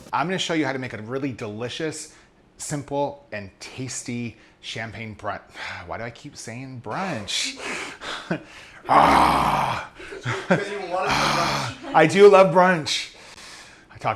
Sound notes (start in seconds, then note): 5.7 sighing; 8.8 groaning; 8.8 laughing